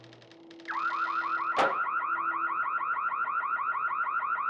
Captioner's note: door creaking; alarm ringing